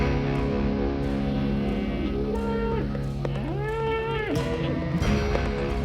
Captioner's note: cattle moo